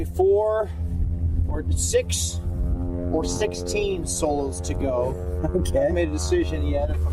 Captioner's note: chuckling